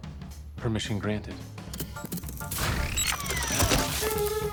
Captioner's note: mar17 whirs